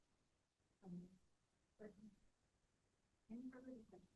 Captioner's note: speaks faintly; member speaking faintly